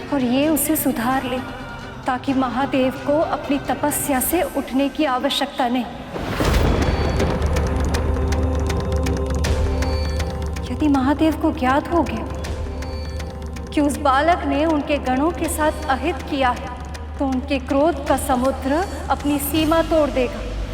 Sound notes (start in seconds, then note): 6.1 thundering